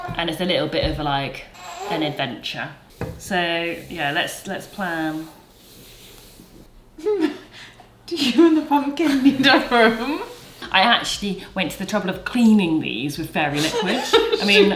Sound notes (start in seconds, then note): 7.0 giggles; 13.5 laughs